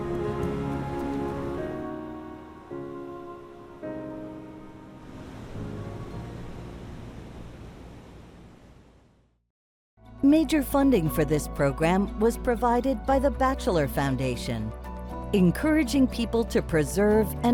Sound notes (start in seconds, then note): 0.0 airy bright music continues; 7.1 waves crashing softly